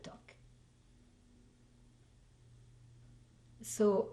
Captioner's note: pauses for 3 seconds